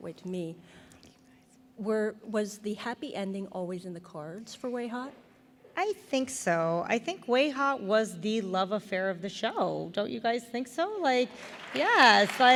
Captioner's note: applause